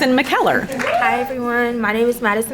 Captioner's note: crowd applauding